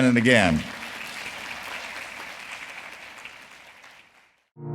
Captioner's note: audience applauding